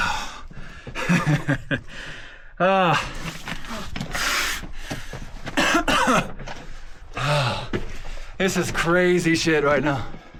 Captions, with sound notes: Ah (laughs). Ah. (coughs) This is crazy shit right now.